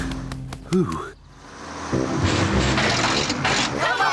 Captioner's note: bus splutters